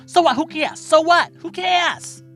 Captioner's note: soundbite of archived recording